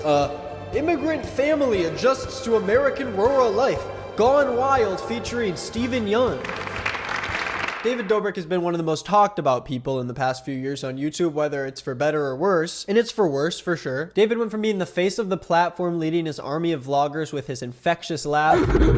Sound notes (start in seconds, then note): 5.7 audience lightly applaud; 18.5 sound effect laughing sinisterly